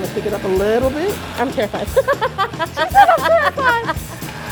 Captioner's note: laughs